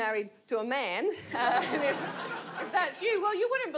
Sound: audience laughs

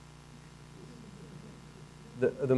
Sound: laughter

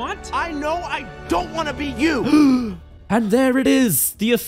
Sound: gasp

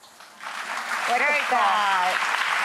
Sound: audience applause

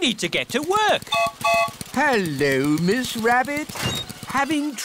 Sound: gertrude's whistle blows

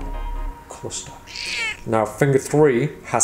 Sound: cat yowls

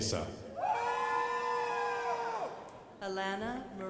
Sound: crowd applauding

